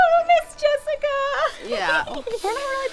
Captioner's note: Jessica giggles